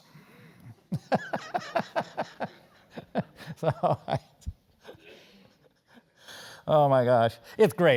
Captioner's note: laugh